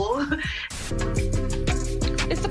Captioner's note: static; funky music